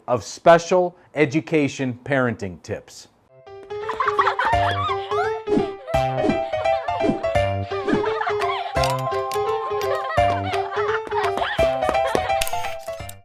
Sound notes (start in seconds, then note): 3.8 children laughing; 5.1 cheerful music